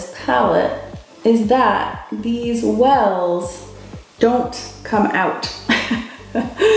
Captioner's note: laughs